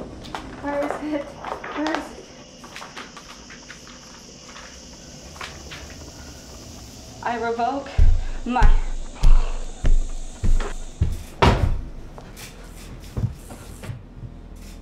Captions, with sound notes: Where is it? Where is it? I revoke my... I revoke my... [Footsteps] [Book thuds]